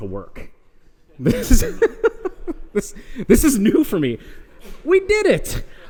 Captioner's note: laughs